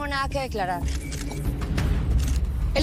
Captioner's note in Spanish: Clic de las cámaras